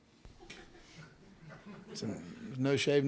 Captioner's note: group chuckles